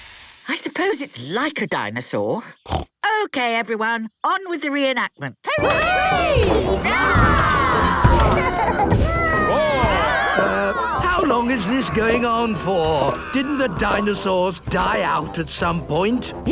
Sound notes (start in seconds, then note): 2.5 snorts; 5.6 cheering; 7.8 roarings, giggling